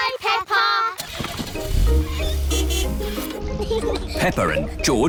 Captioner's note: car starts; toots horn